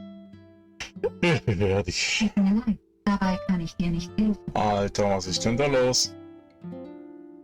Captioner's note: Alexa is now babbling in German again